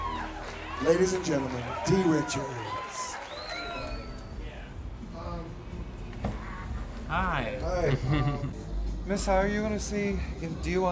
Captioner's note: cheers